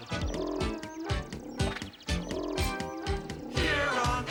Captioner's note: animal noises